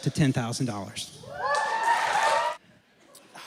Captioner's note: applause and cheering